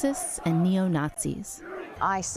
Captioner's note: crowd chanting